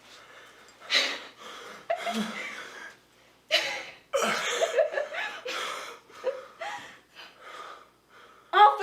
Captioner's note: York groaning, Margaret laughing